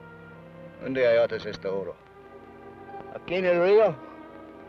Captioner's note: Ben speaks foreign language